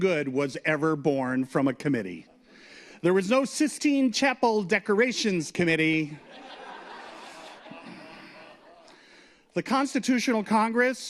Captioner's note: laughter